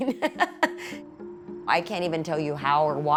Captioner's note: laughing